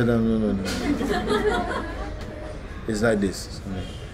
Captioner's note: laughter